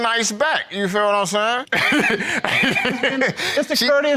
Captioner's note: laughing